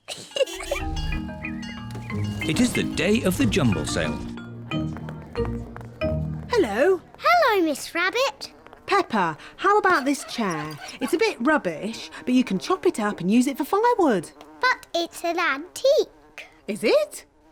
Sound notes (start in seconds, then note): 0.0 giggles; 8.8 flies buzzing